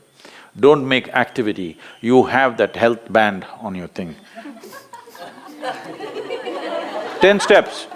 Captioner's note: laughter